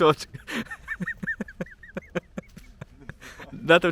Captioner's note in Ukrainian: Сміється